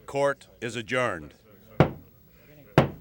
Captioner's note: gavel pounds